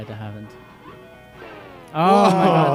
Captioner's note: game beeping